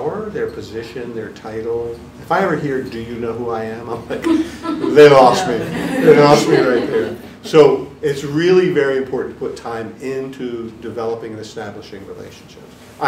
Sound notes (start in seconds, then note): 4.2 audience chuckling